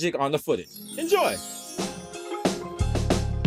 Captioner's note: twinkling